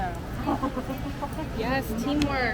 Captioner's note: laughing